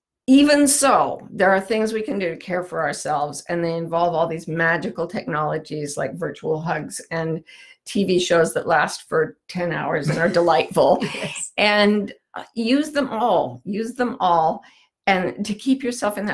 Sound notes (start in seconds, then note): 10.0 laughs